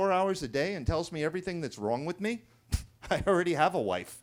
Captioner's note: scoffs